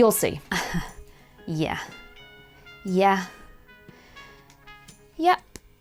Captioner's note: chuckles